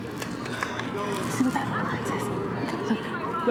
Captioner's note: whispering